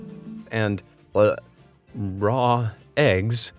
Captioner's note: narrator gags